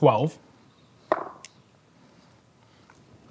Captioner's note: dice rolling